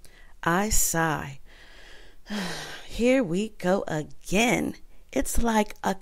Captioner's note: I sigh